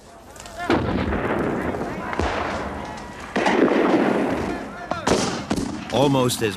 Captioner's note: cannons and guns boom; soldiers shouting